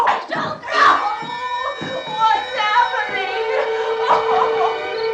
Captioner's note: whimpers; sinister music